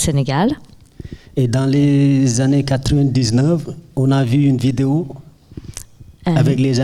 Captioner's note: speaking in French